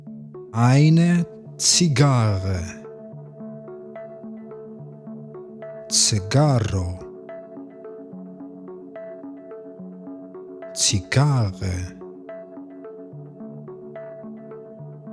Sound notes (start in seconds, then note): 2.1 german; 11.8 german